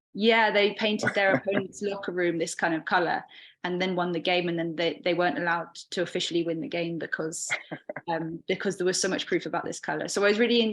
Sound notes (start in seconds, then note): 7.5 chuckling